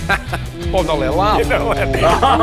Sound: everyone laughs

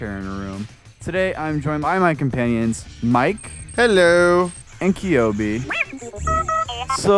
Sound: robot noises

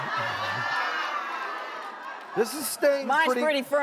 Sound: laughing

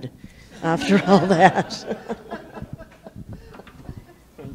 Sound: & the public laugh

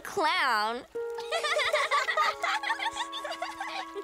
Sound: laughing

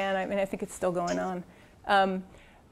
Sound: cough

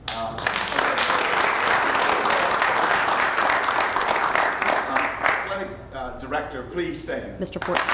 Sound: applause

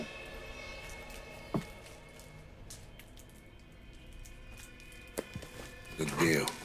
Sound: low tense music; plastic crunching; money rustling

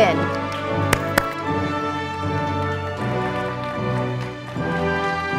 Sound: audience applauding

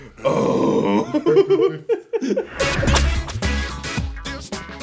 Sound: laugh

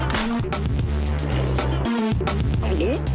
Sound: slap!; sip; gulp!

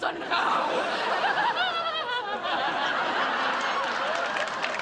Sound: laughs maniacally

